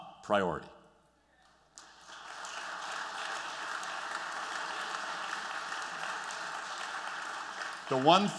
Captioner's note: applause